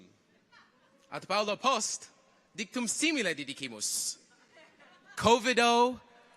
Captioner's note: continues to speak in Latin